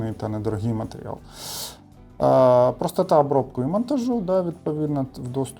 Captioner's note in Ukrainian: сопіння